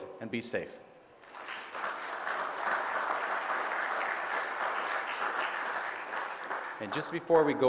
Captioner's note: audience applause